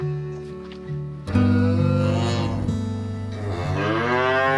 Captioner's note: cows moo